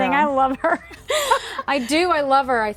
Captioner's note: laughing